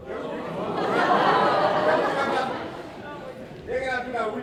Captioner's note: laughter